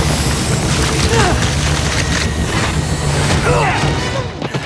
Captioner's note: grunting